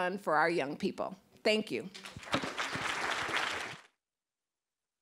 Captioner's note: applause